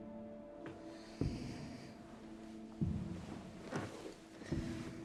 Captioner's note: footsteps approaching